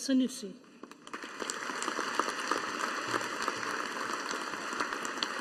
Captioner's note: audience applauding